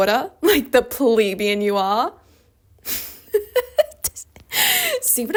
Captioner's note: snickers